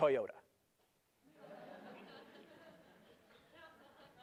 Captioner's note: laughter